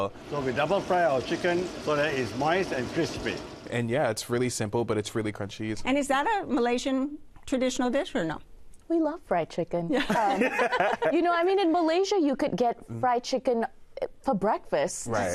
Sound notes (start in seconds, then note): 10.0 all laugh